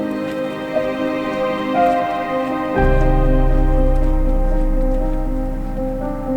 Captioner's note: trail crunching